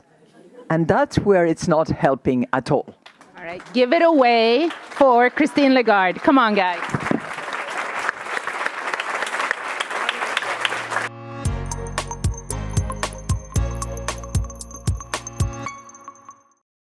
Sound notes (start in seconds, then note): 7.5 audience applauding; 11.0 gentle music